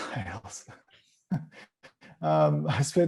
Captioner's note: chuckling